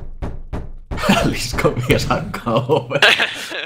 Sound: laughs

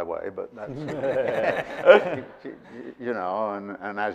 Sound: audience laughing

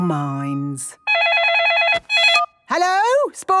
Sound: phone ringing

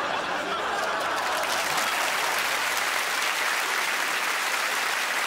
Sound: crowd applauds and laughs

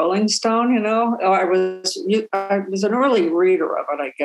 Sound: audio distortion

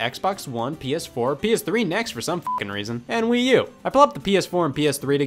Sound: beeps

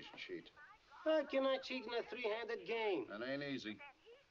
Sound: </i> woman Chattering <i>On Phone

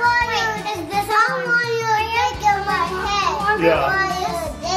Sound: children chattering

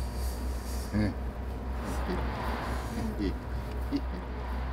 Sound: dad laughing

